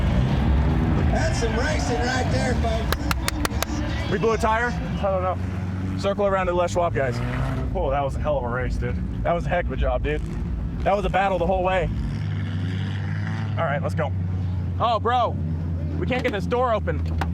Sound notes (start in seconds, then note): 2.9 clapping